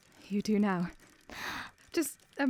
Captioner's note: etta gasps